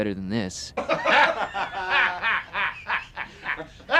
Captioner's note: loud laughter